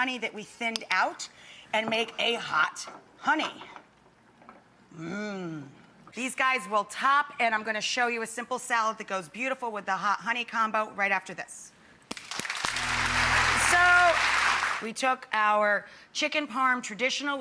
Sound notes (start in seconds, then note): 12.1 audience clapping